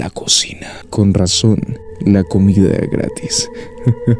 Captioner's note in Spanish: risa malvada